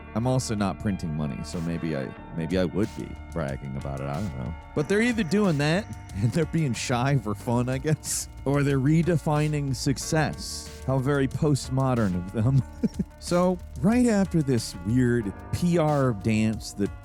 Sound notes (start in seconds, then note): 5.9 chuckles; 12.2 chuckles